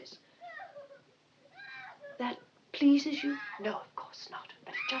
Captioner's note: screaming, sobbing continues